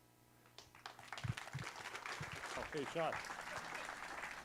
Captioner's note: applause